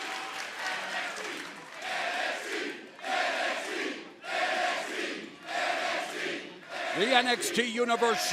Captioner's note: crowd cheering